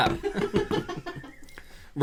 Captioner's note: giggling